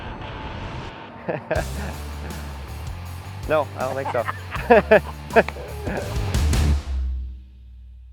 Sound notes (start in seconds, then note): 1.2 laughs; 3.4 both laughing